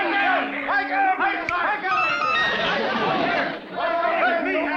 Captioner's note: whimsical chimes; finger snaps